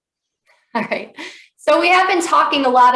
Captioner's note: chuckles